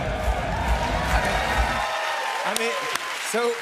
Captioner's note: cheers and applause